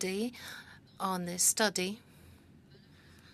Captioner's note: speaking French